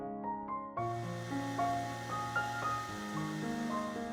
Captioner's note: whirring of heat-gun